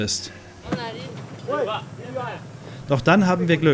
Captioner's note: they talk in their own language